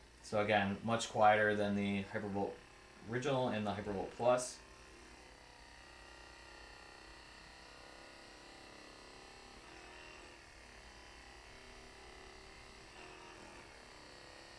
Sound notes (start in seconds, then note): 0.0 Hypervolt GO humming; 5.3 Hypervolt GO vibrating